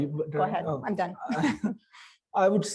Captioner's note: laughter